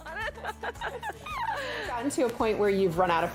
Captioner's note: laughing